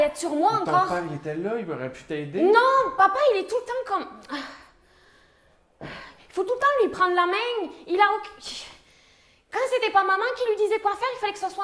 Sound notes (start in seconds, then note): 5.8 sigh